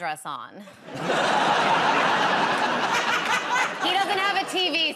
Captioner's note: laughter